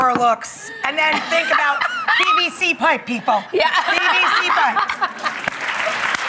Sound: laughter; applause

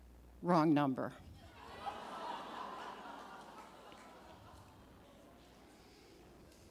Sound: audience laughing

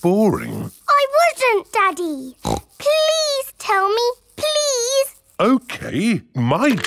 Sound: snorts

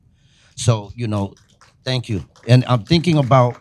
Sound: audience applauding

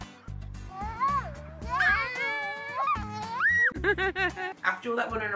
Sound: laughs

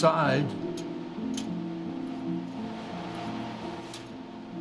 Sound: metal clanking

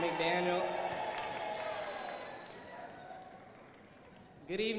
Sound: crowd applauding

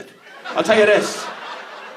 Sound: audience laughs

